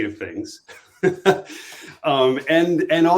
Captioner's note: chuckles